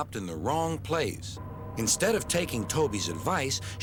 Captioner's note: hums